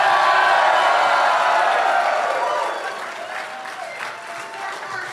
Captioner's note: applause